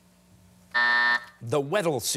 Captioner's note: buzzer sounding